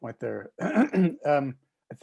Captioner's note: clears throat